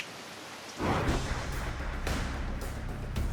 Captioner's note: rainfall; lightning